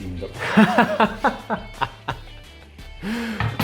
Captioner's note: laughing